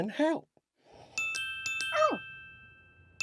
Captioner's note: chimes